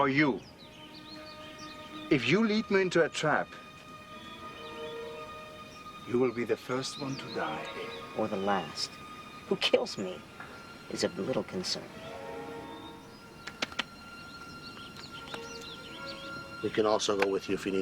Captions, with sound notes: - Or you. If you lead me into a trap, you'll be the first one to die. - Or the last. Who kills me is of little concern. (hands clapping) - We can also go if you need us.